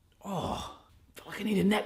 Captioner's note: groans